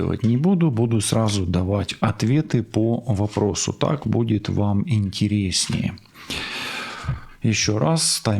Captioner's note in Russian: вздыхает